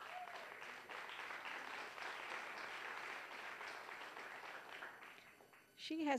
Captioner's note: applause